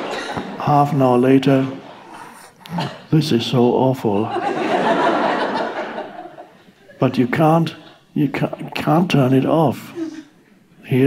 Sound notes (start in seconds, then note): 4.2 audience laughing